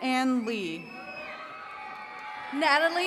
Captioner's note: attendees cheering